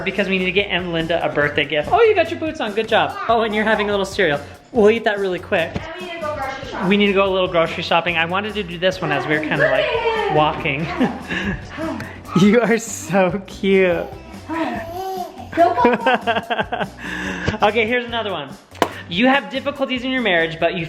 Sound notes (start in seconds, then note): 14.5 laughing